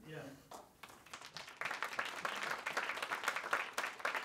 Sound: applause

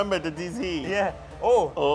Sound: speaks in foreign language

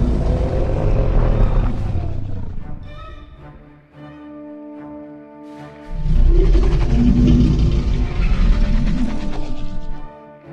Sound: mosasaurus Sounds

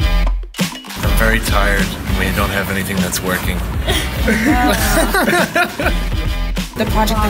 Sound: laughter

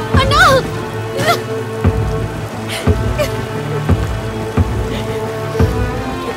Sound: heavy rain sounds

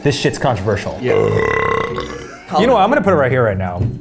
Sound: burps

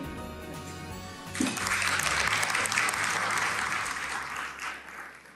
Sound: team members applaud

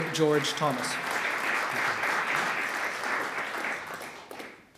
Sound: audience clapping

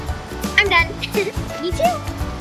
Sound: upbeat playful music; giggles

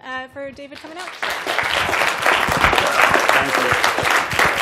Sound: applause

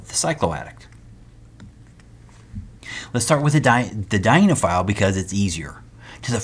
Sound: turn page

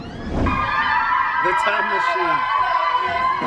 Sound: kids yelling

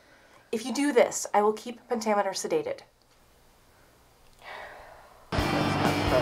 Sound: sigh

